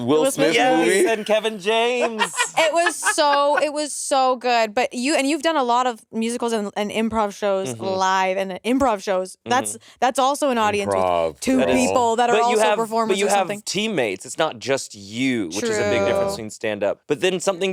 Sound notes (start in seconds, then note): 0.3 Monét laughing